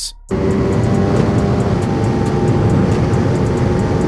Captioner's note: racecar humming